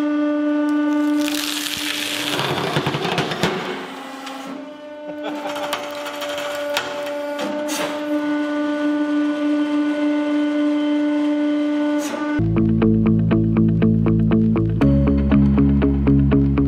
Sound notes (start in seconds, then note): 5.0 laughing